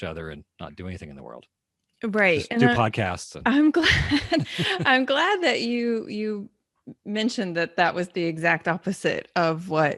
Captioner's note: laughing